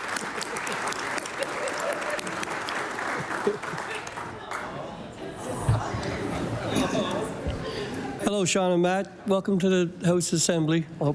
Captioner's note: applause